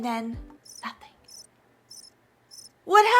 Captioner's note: crickets chirping